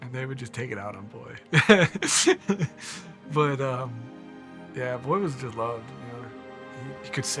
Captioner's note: laughing